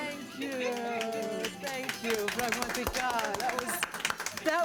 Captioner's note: speaking in greek